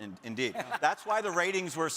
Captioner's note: laughing